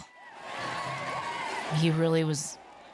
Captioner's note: people cheering